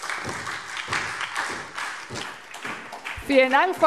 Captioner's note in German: Beifall SPD und DIE LINKE